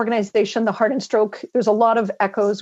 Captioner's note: speaking French